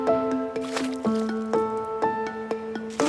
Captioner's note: splash